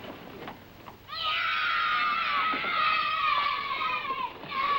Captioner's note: kids cheering